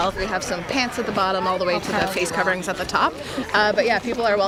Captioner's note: cheers